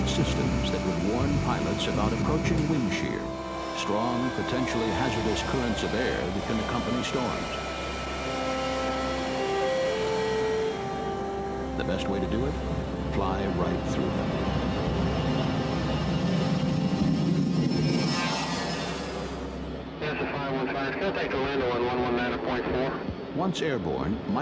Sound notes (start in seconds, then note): 16.3 jet engines; 20.3 pilot on radio